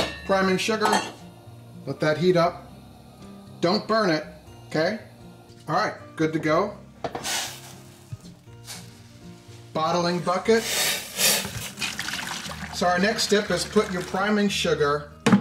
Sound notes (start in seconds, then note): 0.2 serene music; 11.2 water splashes